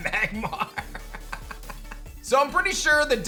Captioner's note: laughs